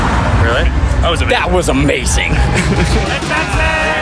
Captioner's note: laughs